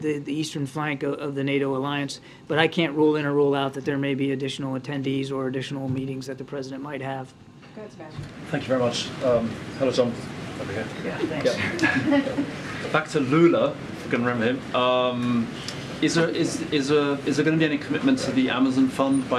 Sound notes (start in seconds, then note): 11.5 laughter